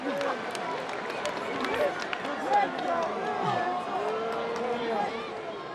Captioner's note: audience cheering